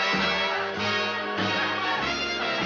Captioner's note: laughing